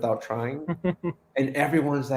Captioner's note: soft chuckle